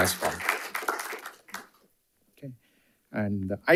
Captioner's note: audience applauding